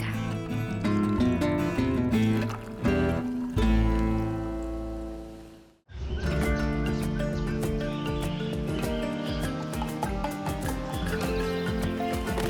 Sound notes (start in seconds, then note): 6.1 birds chirping; 12.3 child shouts